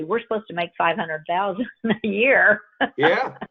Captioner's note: laughs